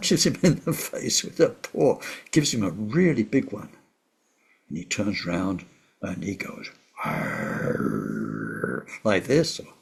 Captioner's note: roaring noise